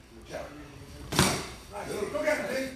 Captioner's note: clunk